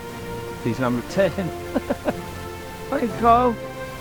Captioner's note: laughs